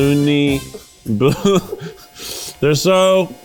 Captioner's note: laughing